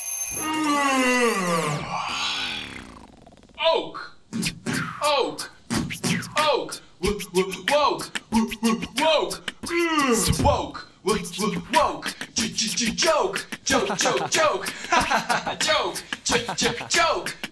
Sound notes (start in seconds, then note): 0.0 alarm clock ringing; 0.3 yawning; 9.7 yawn; 11.7 laughing